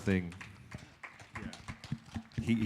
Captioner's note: applause